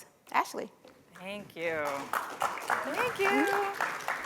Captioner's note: applause